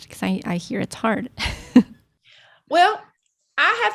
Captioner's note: chuckling